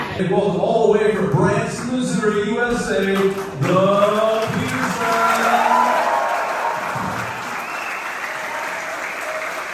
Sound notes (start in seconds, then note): 5.9 applause